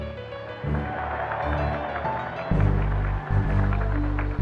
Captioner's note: cheers, applause